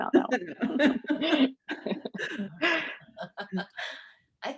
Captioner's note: laughing